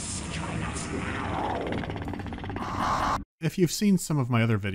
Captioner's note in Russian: хищное рычание и странный, каркающий крик